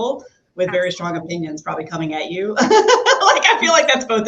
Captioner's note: laughs